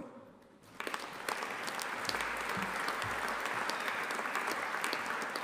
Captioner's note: audience applauding